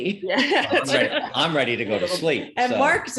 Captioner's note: laughs